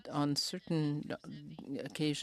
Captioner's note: speaking in french